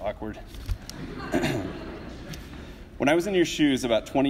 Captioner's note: audience laughs